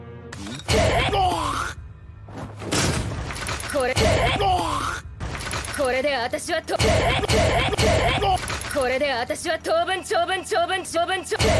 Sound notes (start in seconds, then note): 0.7 guard grunts; 3.9 guard grunts; 6.8 guard grunts